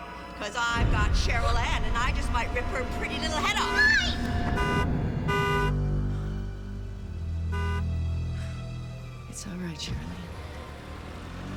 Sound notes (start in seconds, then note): 3.2 car horn honking; 5.6 tense music; 7.1 car horn honking